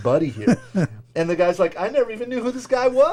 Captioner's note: chuckling